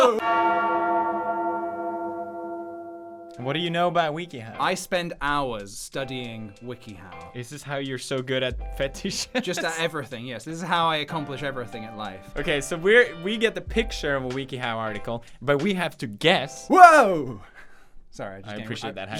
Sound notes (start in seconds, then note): 9.4 laughs